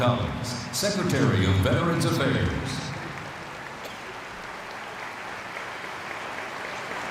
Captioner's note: applause